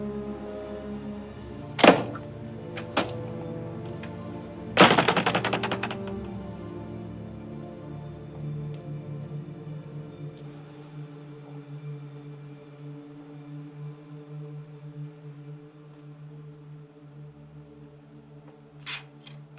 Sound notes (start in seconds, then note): 2.0 door opening; 4.8 door shutting; 8.0 soft music